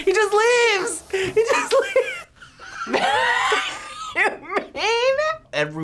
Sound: laughs

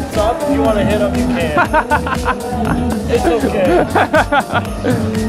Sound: laughs

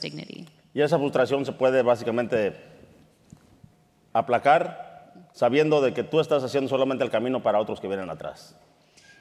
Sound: speaking in Spanish

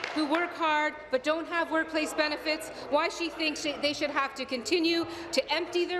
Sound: applause

